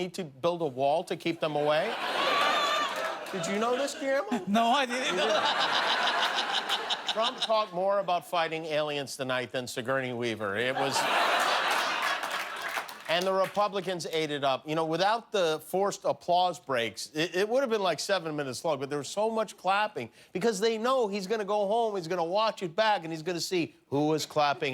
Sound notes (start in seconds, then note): 10.7 laughter